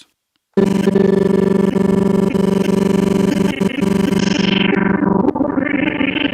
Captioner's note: distorted sound sample stuttering